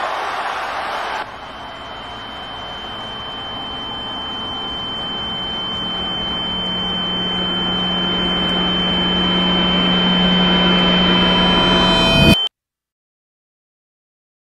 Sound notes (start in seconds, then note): 1.2 ear ringing